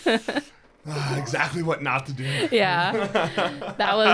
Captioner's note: both laughing